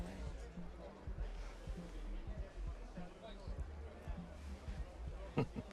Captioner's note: attendees chattering